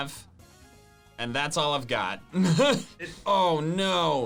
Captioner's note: laughs